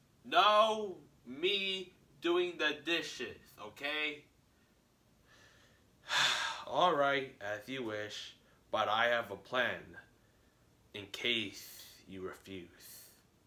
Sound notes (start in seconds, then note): 6.0 sigh